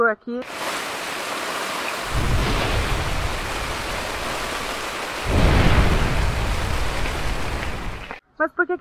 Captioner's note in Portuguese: barulho de chuva caindo na barraca e trovões ao fundo